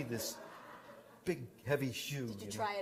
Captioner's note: laughter